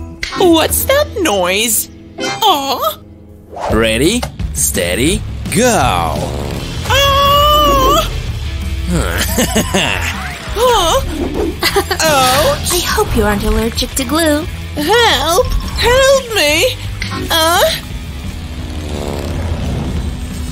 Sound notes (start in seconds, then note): 8.9 evil laughter